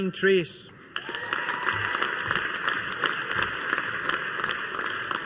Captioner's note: audience applauding